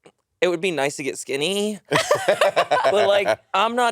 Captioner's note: laughing